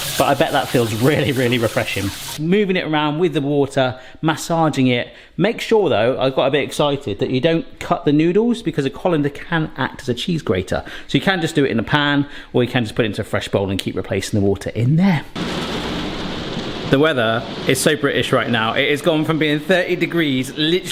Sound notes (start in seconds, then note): 15.4 rain hitting window